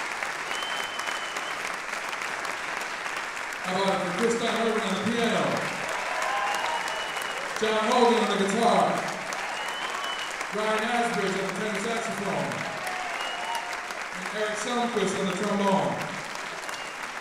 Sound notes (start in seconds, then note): 3.4 applause drowns speech